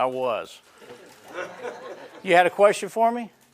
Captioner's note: laughing